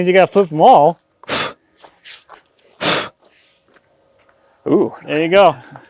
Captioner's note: blowing